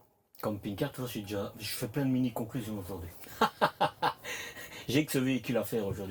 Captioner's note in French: rires